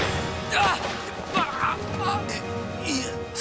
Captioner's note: harry grunting